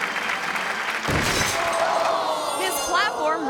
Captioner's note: orchestral music; crowd clapping; crowd clamoring; conductor thuds